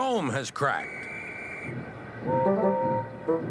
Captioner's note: whistle blows; toot toot